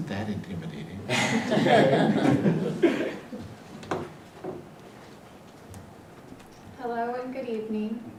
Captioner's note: laugh